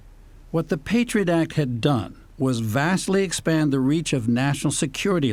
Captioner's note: voice-over